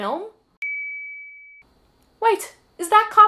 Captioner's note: ding